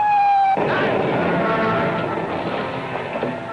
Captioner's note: incoming bomb; dramatic music